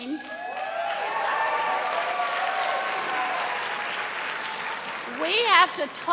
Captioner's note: cheers and applause